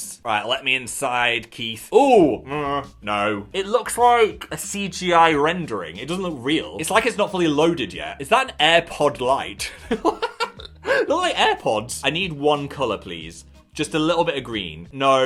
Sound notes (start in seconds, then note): 9.6 laughing